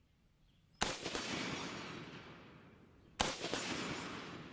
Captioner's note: fires shots